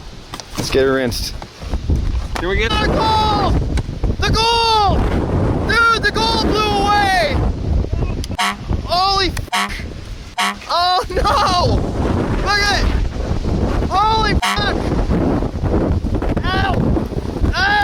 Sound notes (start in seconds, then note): 3.5 wind rustling; 10.3 horn honks; 14.4 horn honks; 15.5 wind rustling